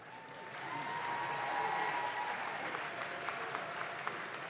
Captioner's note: audience claps